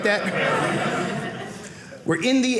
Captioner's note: audience laughing